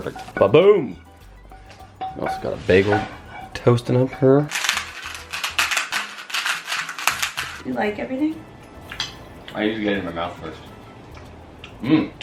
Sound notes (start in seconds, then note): 4.4 salt crackling